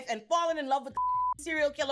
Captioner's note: beep